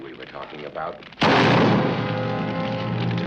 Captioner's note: gunshot